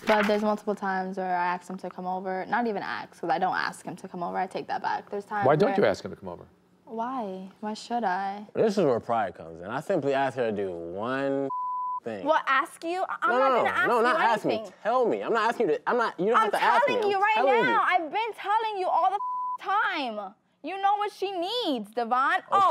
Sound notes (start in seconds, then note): 11.5 beep; 19.1 beep